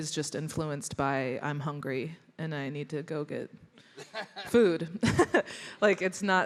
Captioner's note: chuckles